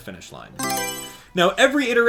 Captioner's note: Mario Selection Sound